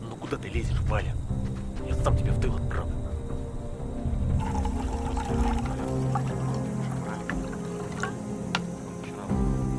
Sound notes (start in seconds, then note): 4.4 sound of milk pouring